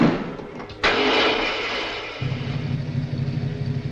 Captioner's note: engine starts